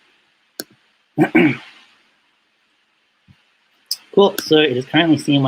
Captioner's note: clears throat